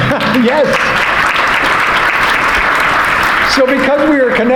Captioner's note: audience applauding